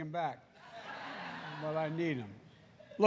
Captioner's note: laughter